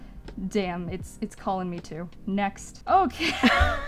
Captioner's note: both laughing